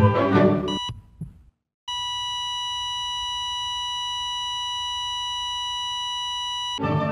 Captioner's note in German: Herz Monitor